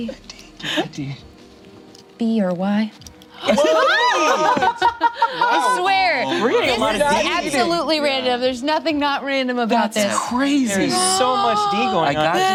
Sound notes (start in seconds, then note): 3.4 laughs